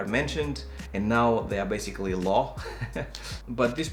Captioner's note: laughs